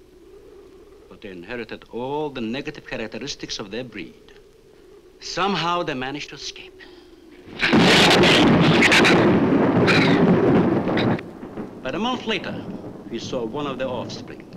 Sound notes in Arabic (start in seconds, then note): 7.3 يُصفق الرعد; 7.4 يزمجر الزبابة